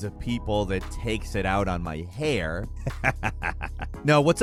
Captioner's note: laughs